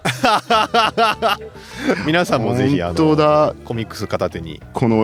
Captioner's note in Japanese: 笑い